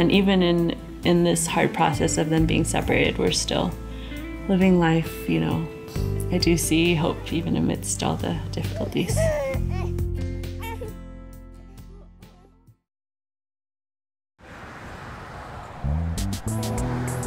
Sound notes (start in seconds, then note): 8.6 baby Babbles